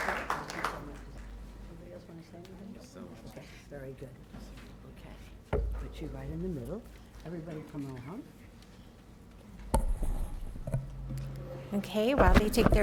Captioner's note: applause